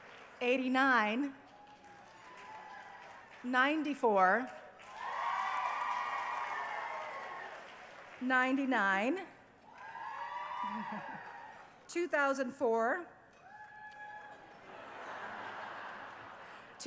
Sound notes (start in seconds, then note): 4.4 cheering; 9.6 cheering; 14.6 laughter